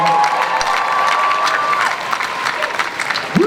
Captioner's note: audience applause